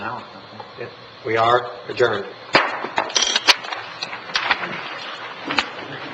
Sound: gavel bangs

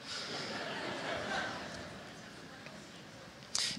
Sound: laughter

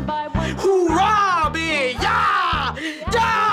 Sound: screaming

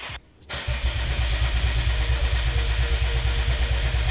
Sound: engine turns over, attempts to burble

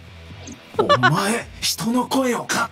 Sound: chuckles

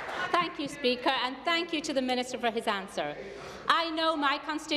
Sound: some Applause

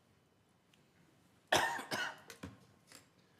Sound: cough

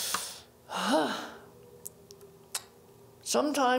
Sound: exhales; inhales

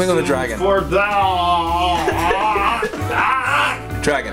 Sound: drawls

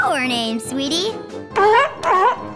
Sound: barking

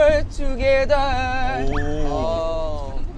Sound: impressed

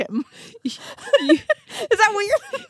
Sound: group laughs

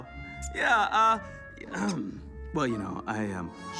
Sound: Lucifer clears throat

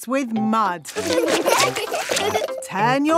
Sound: laughing

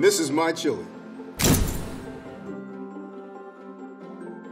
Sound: camera shutter clicks; light upbeat music

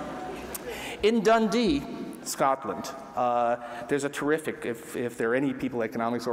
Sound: laughter

